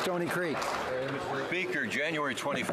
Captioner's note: some Applause